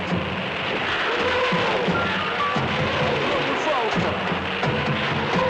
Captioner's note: rockets roaring